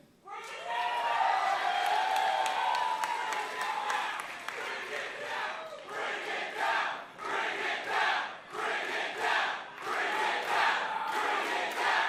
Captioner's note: crowd cheering